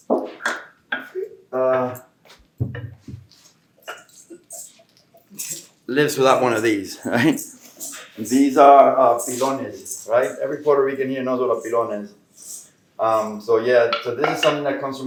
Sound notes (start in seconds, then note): 8.6 Spanish; 12.0 Spanish